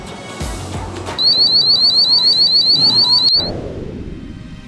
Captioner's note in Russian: Звучит сигнализация